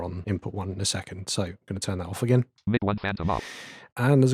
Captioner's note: automated voice